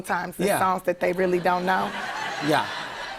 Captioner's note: laughter